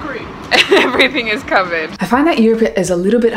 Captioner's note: laughs